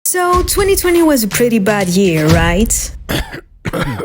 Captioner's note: French accent